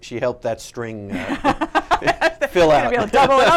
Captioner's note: laughing